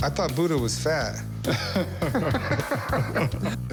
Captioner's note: laughter